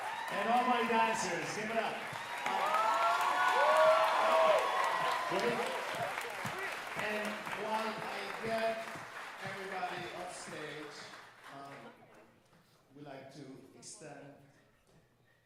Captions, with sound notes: and all my dancers, give it up. [audience cheering and applauding] And while I get everybody on stage, we'd like to extend